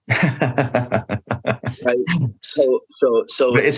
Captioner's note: laughter